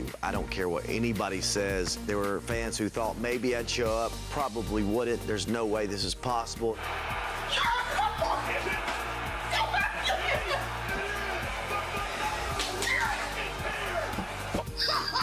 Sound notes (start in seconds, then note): 6.6 crowd cheers